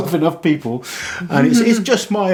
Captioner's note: laughs